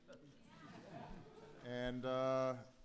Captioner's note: laughter